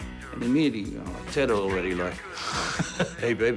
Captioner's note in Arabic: يضحك